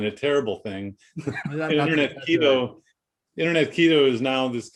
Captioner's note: laughing